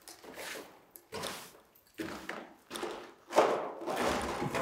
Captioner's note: brush scraping